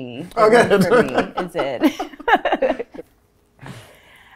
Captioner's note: laughing